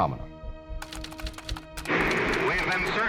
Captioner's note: typewriter clicking